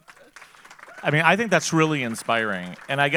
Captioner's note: audience applauding